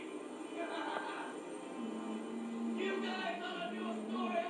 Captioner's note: laughs